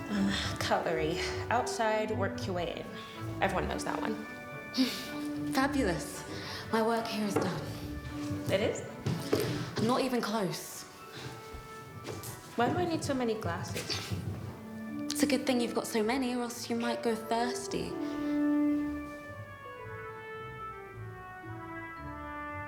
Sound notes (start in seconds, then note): 5.0 laughs